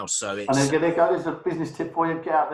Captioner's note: murmuring